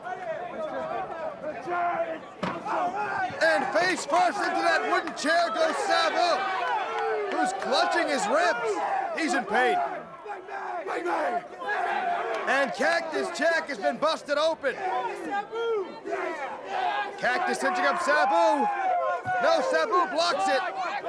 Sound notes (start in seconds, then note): 0.2 crowd chatter; 6.8 crowd cheering; 12.2 crowd chatter; 16.8 crowd chatter